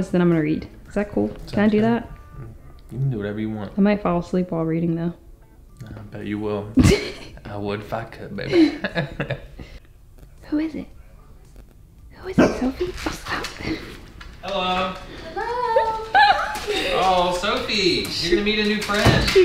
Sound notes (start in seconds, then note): 6.8 chuckles; 8.4 laughs